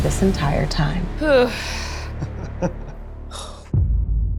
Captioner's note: sighs